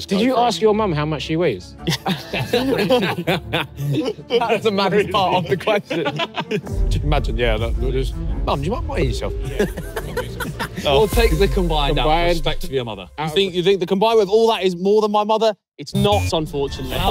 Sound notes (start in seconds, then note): 1.8 laughs; 1.8 everyone laughing; 9.4 everyone laughing